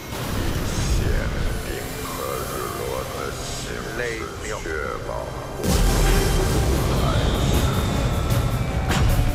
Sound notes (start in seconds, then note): 2.7 fire roaring; 5.6 fire explosion